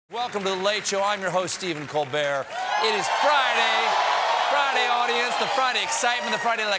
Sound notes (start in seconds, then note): 2.4 cheers and applause